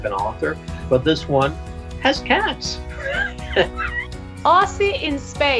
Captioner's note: laughing